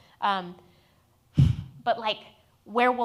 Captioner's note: sighs